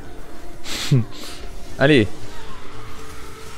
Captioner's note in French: Rire